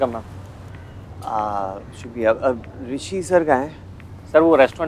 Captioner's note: Groans